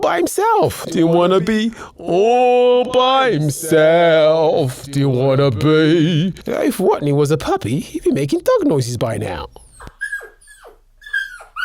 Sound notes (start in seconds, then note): 9.5 dog noises